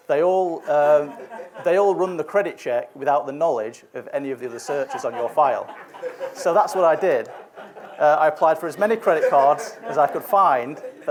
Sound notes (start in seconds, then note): 5.9 audience laughs